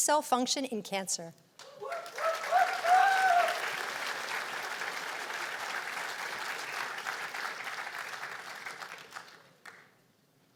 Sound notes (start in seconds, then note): 1.6 cheers and applause